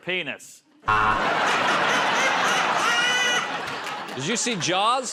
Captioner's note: buzzer